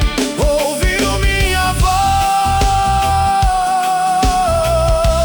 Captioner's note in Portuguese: grito